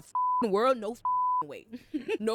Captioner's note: beep